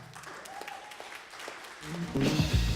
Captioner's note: applause